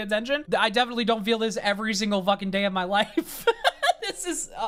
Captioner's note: laughs